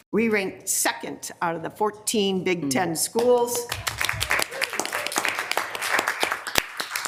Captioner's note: people clapping